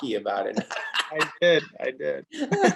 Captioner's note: laughs